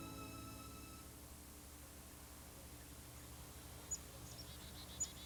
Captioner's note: nature sounds